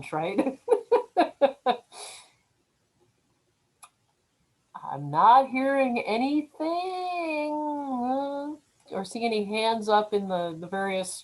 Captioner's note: laughs